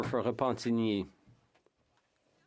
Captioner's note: speaking French